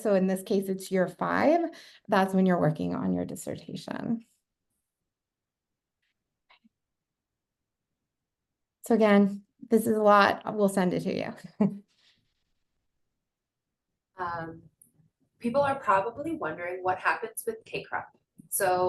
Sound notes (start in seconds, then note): 11.5 chuckling